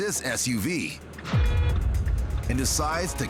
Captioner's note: horn honks